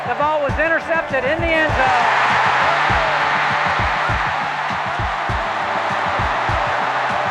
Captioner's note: cheers cover voice